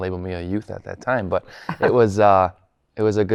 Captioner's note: laughs